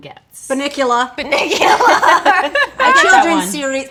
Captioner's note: laughing